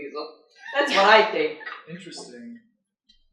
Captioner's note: laughter